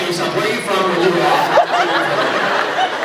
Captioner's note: laughs; scattered laughs